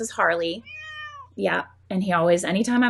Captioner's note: Harley meowing